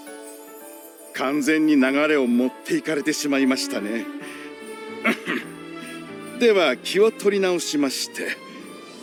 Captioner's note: cough